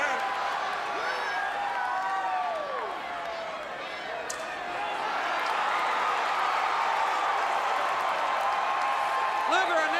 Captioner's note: crowd cheering